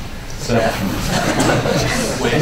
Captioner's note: laughter